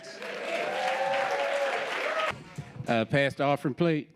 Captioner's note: audience applauding